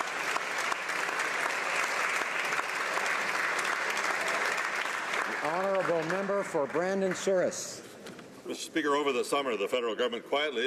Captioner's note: applause